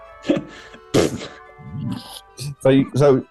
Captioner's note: splutters